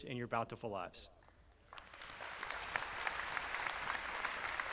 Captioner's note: applause